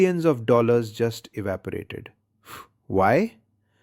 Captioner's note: exhales sharply